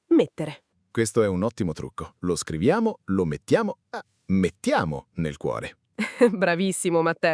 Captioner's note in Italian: risate